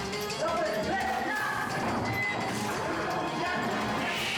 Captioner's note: officers shouting